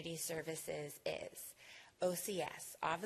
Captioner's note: none